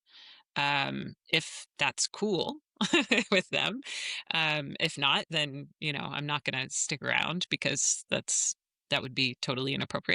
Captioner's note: laughs